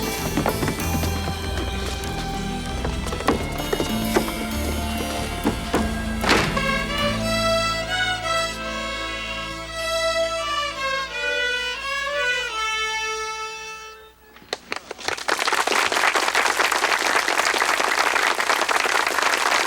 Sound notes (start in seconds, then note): 6.1 door slams; 7.6 rudimentary string music continues; 14.5 townsfolk applaud